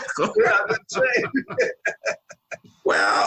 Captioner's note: laughing